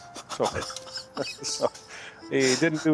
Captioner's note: interviewer laughing